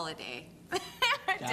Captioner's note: laughing